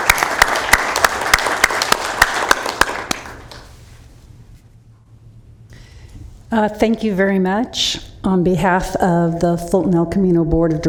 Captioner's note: applauding